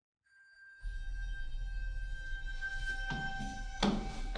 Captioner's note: bell rings